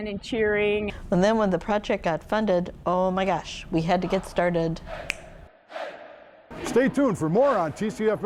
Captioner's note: snaps fingers